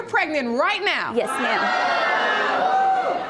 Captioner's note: audience yelling in shock